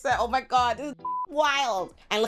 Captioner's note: beep